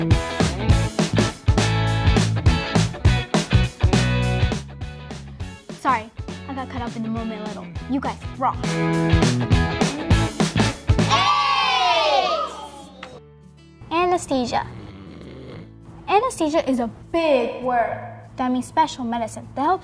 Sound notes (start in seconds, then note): 14.5 snoring